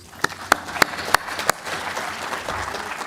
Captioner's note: applause